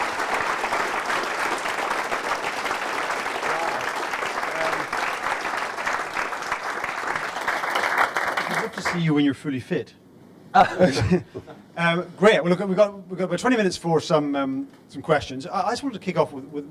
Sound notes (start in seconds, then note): 0.1 applause; 10.6 chuckles